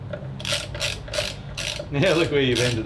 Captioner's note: ratcheting